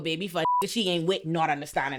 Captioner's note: beep